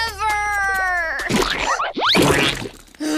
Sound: gasps

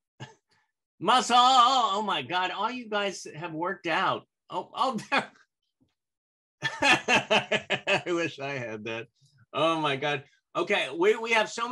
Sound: laughter

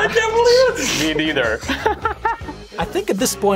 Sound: laughing

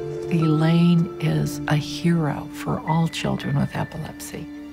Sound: none

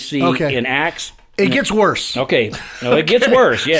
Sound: laughing

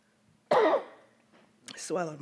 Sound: coughs

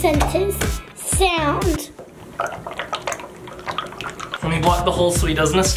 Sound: goo squishes

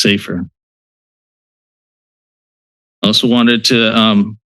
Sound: pause

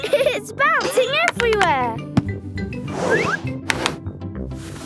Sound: laughing

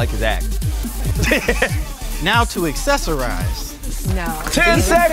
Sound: laugh

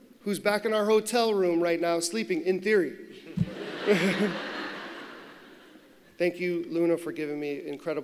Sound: laughter

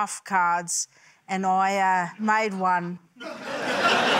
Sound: laughter

